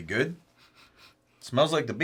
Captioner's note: sniffs